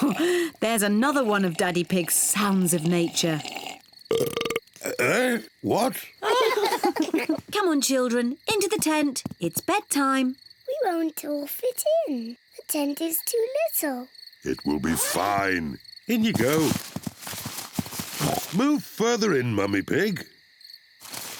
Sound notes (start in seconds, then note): 3.7 burps; 6.2 all laugh; 18.2 oinks